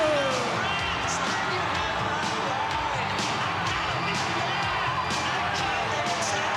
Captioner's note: upbeat rock music; crowd cheering